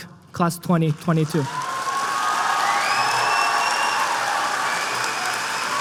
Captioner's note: applause